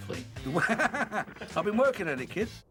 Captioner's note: laughing